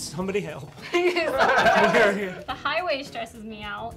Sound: laughing

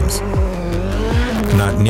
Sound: engine roaring

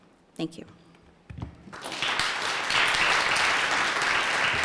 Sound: applause

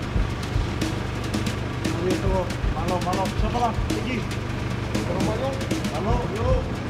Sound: indistinct conversation

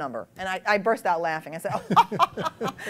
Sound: laughter

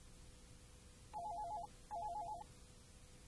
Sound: phone rings

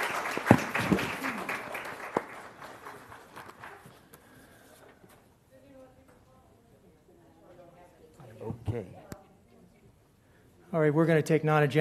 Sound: applause

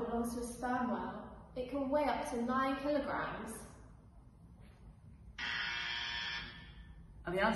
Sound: buzzer buzzes

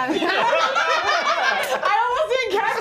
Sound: group laughing

